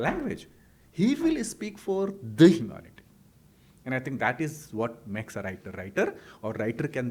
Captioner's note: hindi